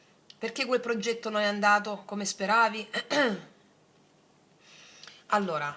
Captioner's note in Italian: schiarire la voce